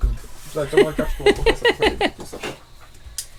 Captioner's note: in Portuguese